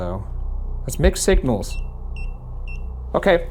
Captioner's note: EMV beeping